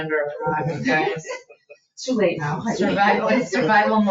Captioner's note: people chuckle